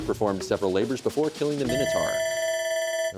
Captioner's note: bell ringing